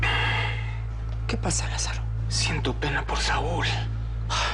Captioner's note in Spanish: El exhala